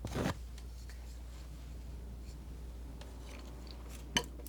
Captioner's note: more clanking of paper